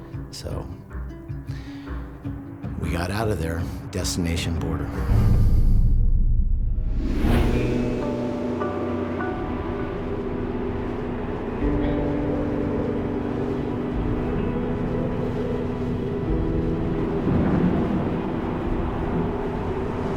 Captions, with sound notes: So we got out of there. Destination border. [wind gusting]